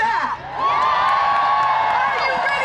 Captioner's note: cheering